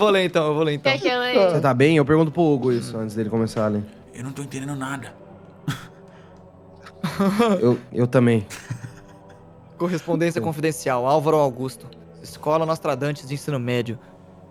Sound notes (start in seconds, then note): 5.6 chuckles; 8.4 laughs